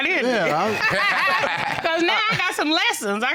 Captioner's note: all laugh